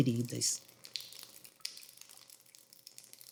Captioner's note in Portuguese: gotejos de água continuam